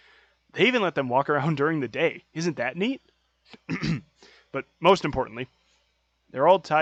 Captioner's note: clears throat